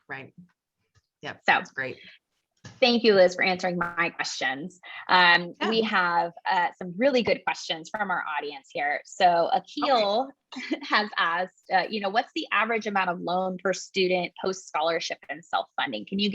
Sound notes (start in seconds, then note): 9.7 laugh